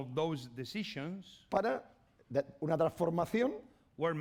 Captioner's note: speaking spanish